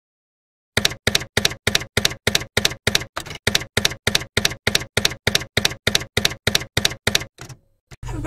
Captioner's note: typewriter keys clacking